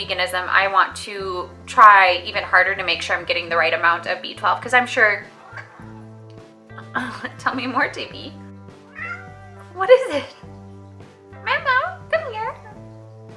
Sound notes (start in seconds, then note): 5.3 weird Cat Meow; 8.8 cat Meow